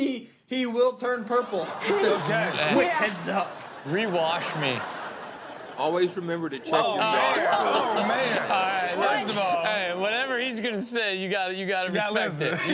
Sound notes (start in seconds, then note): 6.6 laughter